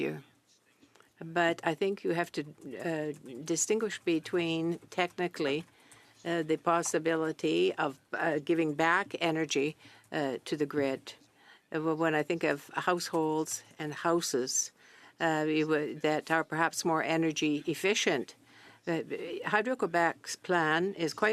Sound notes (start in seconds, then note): 5.0 speaking French